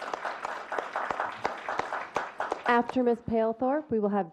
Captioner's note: clapping